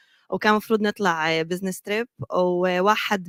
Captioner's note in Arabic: لغة أجنبية